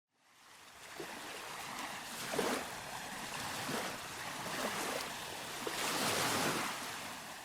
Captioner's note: sounds of waves